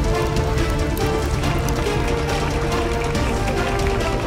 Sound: audience cheering

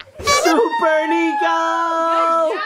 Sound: person cheering

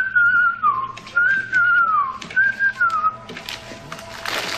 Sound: whistling

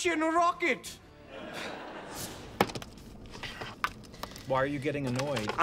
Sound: audience laughing

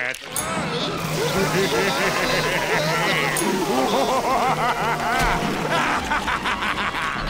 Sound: laughing

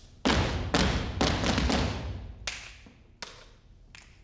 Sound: feet tap

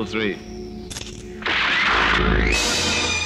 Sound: gunshot

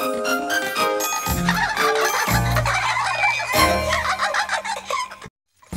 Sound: triplets giggling

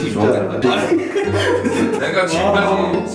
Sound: hahaha

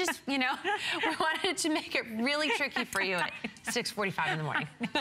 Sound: laughter

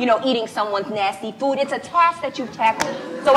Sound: laughs

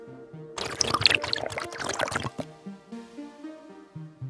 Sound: slurping

